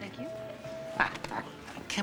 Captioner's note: laughs